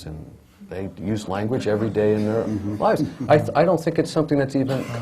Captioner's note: laughter